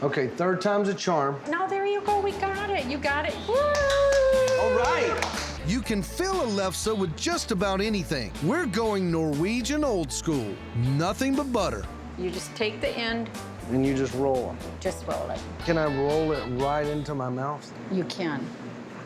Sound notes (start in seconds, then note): 3.7 clapping